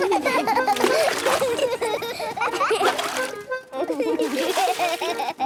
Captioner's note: excited laughter